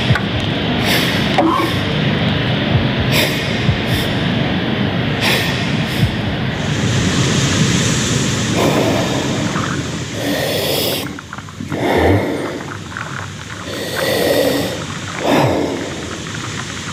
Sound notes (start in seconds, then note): 7.3 waves crashing; 8.5 heavy breathing